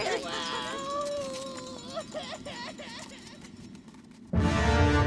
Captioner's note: Distant Panicked Kobold Sobbing